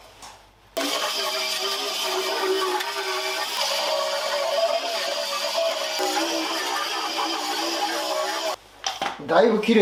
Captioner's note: working sound